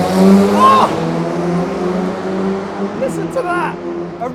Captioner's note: engine revving